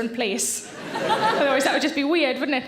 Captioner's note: audience laughing